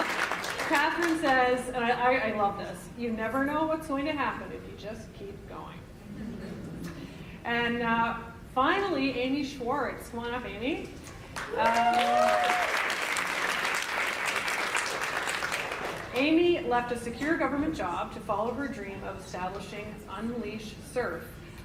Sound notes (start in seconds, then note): 11.3 applause